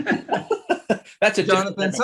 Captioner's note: laughing